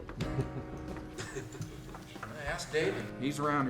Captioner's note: chuckling